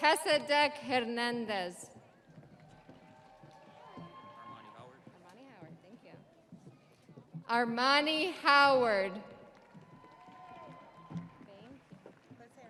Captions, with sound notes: Melchizedek Hernandez. (audience applauding) (audience cheering) Armani Howard.